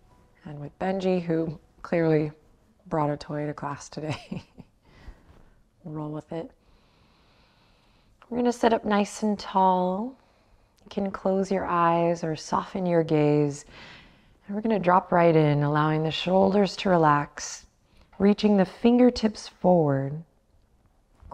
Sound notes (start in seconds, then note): 4.1 chuckles